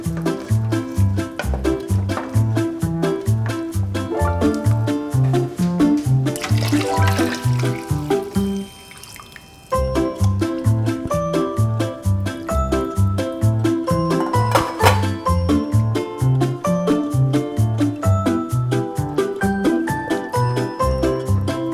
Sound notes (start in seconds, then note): 0.0 uplifting guitar music continues; 5.9 water pouring; 9.9 bouncy guitar music